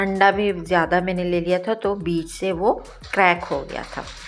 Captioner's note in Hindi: नाक से की जाने वाली आवाज़